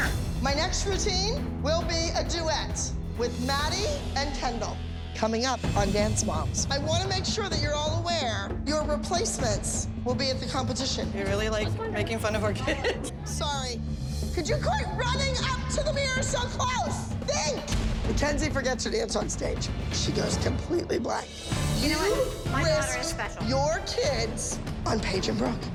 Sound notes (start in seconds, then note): 11.9 laughs